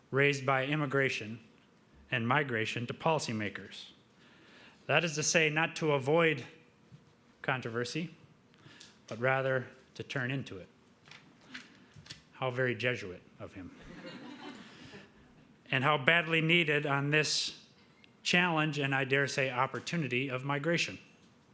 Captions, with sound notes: raised by immigration and migration to policy makers. That is to say, not to avoid controversy, but rather to turn into it. How very Jesuit of him. (audience laughing) And how badly needed on this challenge, and I dare say opportunity, of migration.